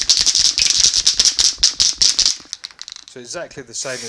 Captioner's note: metallic beads clinking